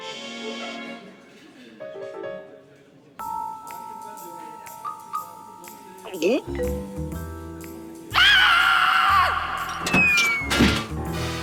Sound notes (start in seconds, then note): 6.0 gulps; 8.1 screams